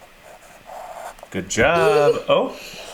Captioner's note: laughs